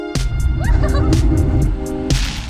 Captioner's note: giggles